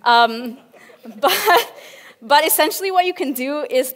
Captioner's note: laughs with audience